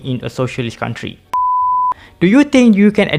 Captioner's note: beep